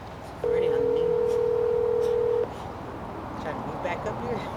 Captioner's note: phone ringing